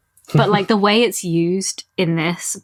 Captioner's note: laughs